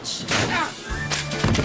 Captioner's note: head crunches